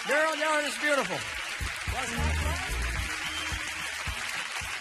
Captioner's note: audience applauding